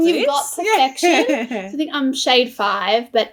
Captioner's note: laughs